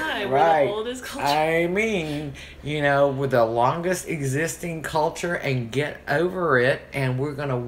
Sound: sarcastically

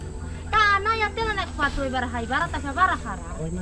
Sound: unknown language

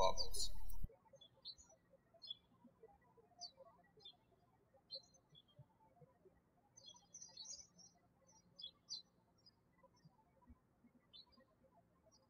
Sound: birds chirping

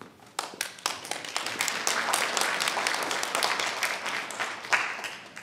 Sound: audience applauding

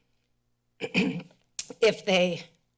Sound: clears throat

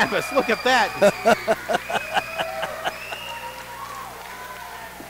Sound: Tony laughing

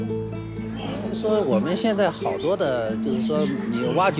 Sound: speaking Chinese

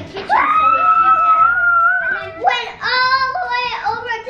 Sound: children shout

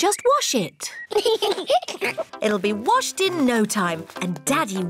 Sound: both giggle

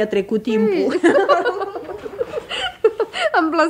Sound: they both laugh

